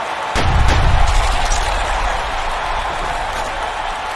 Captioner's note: footsteps thudding